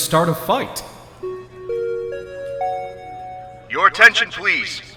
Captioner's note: P.A. system chimes